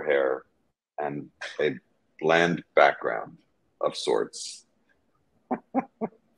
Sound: chuckling

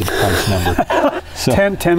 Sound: laughs

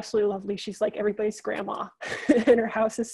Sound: laughs

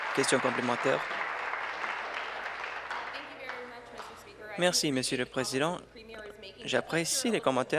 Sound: applause

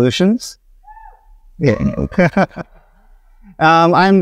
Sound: audience member cheers

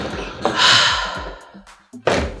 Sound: sigh

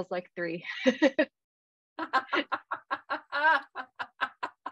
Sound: laughter

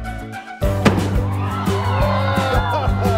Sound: crowd cheering

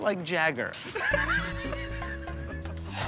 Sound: laughter

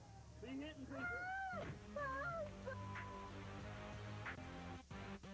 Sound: crying

